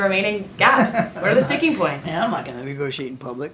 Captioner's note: laughs